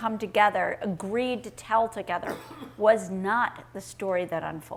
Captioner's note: audience member coughing